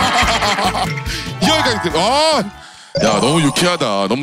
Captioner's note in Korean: 감탄